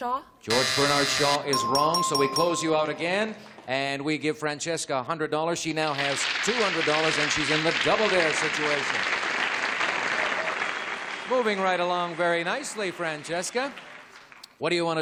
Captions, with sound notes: - George Bernard Shaw? - George Bernard Shaw is wrong. So we close you out again, and we give Francesca $100. She now has $200, and she's in the double dare situation. [applause] Moving right along very nicely, Francesca.